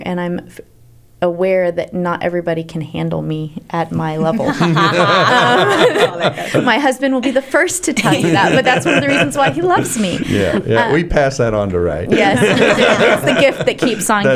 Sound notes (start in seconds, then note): 4.9 laughter